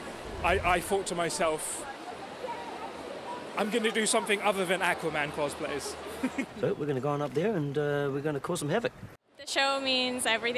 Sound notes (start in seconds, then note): 6.2 chuckles